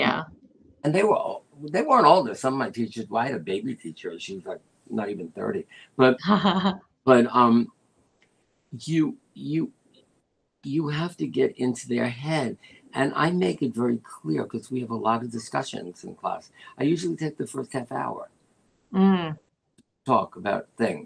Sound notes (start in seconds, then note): 6.3 laughter